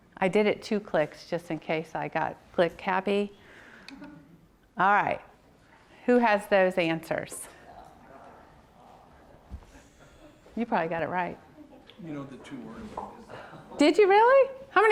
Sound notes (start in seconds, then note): 4.0 audience laughs